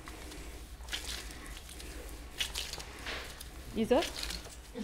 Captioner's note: paste squelches